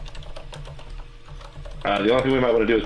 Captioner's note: keyboard keys clanking